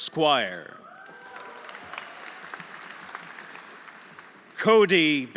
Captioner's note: audience cheering; audience applauding